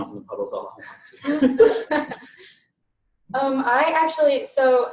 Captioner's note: all laughing